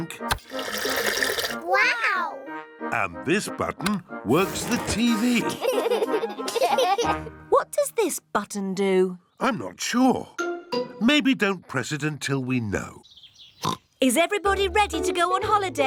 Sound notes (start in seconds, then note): 5.4 laughter; 13.6 oinks